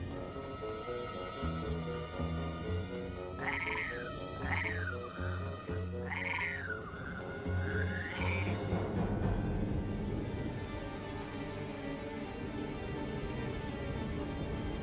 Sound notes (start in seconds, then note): 6.0 growls